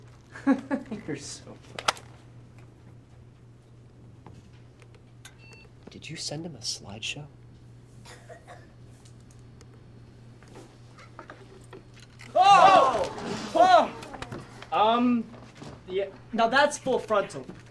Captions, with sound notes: [Joey laughs] You're so funny. Did you send him a slideshow? [yelling] Um... -Yeah... -Now that's full frontal.